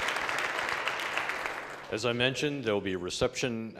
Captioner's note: applause